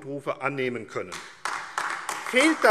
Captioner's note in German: Beifall AfD